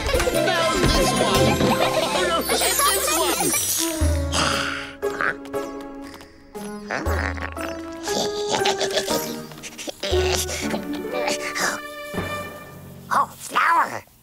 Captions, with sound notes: Now this one. Oh, no, this one. Huh? [giggling] Oh, flour!